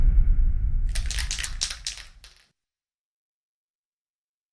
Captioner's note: spray can rattling